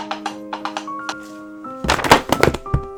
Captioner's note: horse hoof noises; books falling over